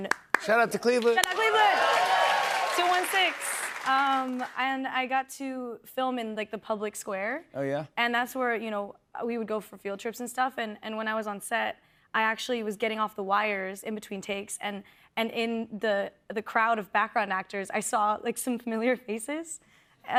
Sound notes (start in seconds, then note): 0.3 cheers and applause